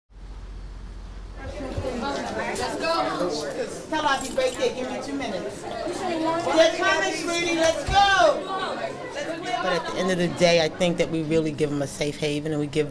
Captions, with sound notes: (students chatter) -: They're comin' sweetie, let's go. -: At the end of the day, I think that we really give them a save haven and we give